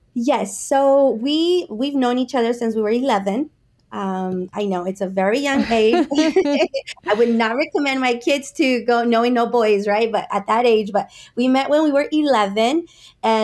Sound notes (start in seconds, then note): 5.5 laughs